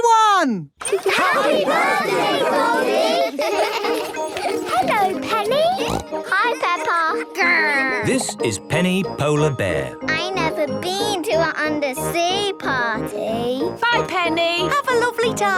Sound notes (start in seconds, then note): 0.8 laughter; 4.5 snorting